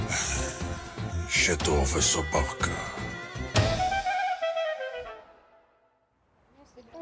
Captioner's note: Rudy sighs; Rudy speaking in foreign language